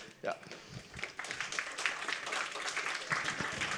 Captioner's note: applause